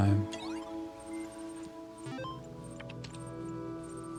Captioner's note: beeping